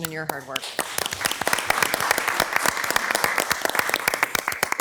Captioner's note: all applauding